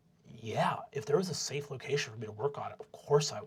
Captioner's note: nasally